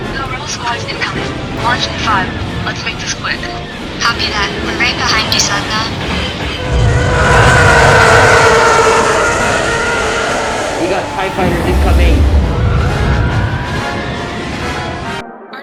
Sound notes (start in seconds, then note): none